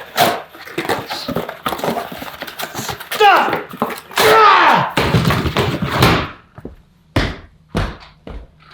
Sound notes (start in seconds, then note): 4.2 yells